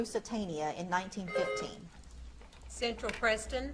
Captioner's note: buzzer beeps